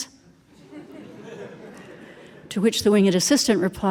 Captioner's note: audience laughing